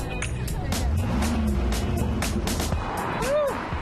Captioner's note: engines revving